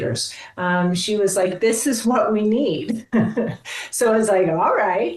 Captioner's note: chuckles